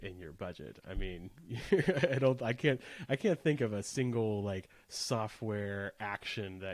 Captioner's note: giggles